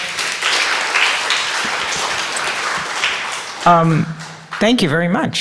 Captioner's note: audience applauding